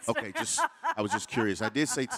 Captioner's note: laughing